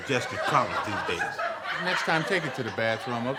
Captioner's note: audience laughing